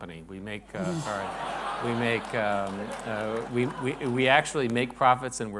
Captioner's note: laughter